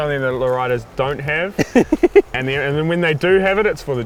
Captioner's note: laughs